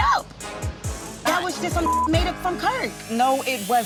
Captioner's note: beep